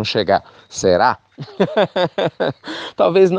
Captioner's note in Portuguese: risos